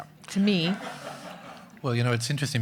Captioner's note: audience laughing